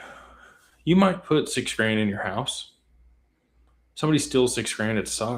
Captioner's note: sighs